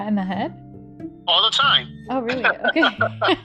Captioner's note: laughter